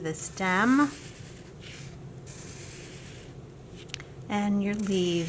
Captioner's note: scratching marker